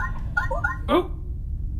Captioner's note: communicator beeps